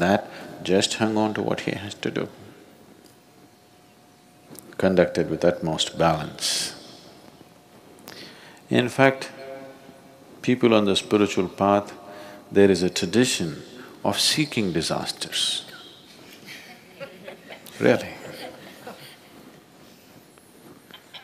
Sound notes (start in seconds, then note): 13.7 laughter; 16.3 笑聲